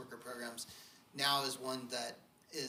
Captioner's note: none